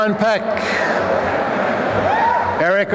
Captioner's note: applause and cheering